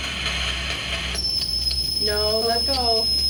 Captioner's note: tone whining